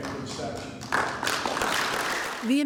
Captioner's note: applause